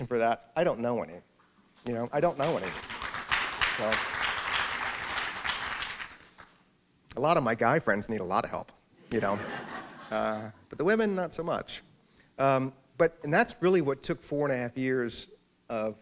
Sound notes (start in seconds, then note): 4.1 applause; 9.1 laughter